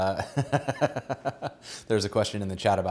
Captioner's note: laughs